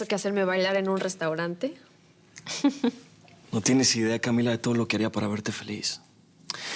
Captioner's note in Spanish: risas